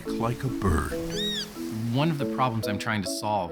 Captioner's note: chirping